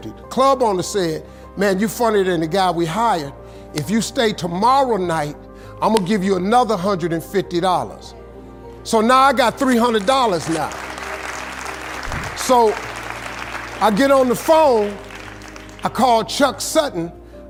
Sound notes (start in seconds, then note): 9.8 audience applauding